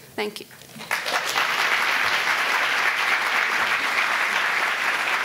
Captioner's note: audience applauding